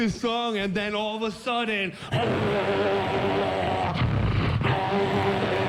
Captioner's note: roaring